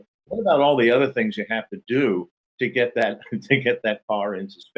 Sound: laughs

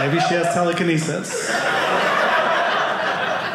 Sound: audience laughing

